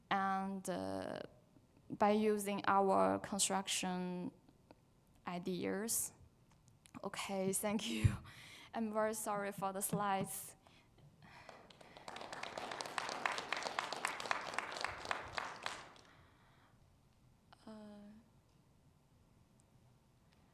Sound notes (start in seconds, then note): 11.4 audience clapping